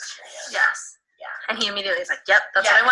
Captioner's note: disembodied Female Voice